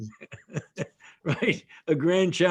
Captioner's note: laughs